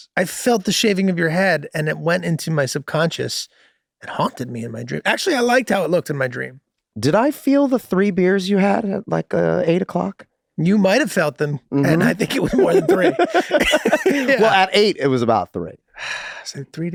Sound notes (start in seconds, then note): 13.4 Charlie and Rob laughing amusingly